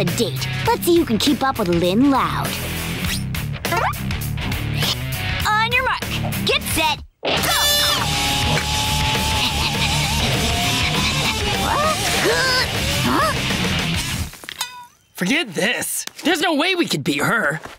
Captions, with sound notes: Let's see who can keep up with Lynn loud. On your mark, get set, go! [panting] [grunting] Huh? Forget this, there's no way we can beat her.